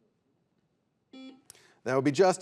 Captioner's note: buzzer buzzes